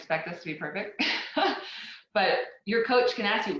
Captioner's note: laughs